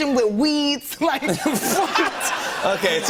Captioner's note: laughter